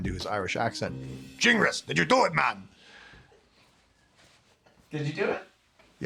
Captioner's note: imitates Irish brogue